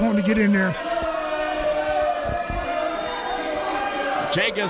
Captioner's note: crowd cheering